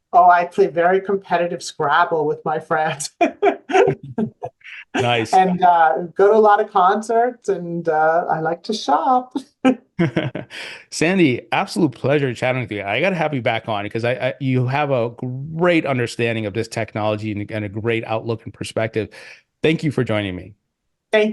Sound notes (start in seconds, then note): 3.5 laughing; 10.0 presenters laughing